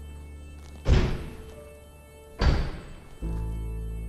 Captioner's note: doors slamming